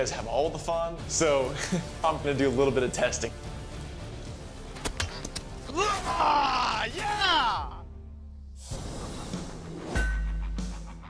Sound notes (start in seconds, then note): 4.8 roars